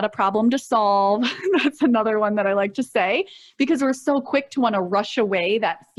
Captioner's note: chuckles